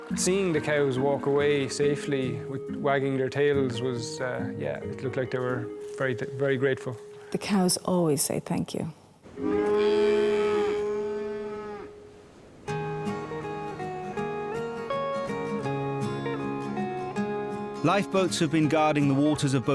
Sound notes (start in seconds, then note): 9.3 cows moo; 12.9 uptempo music